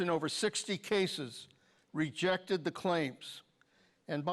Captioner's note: none